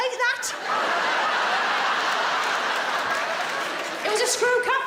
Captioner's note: audience laughs